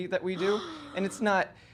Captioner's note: gasping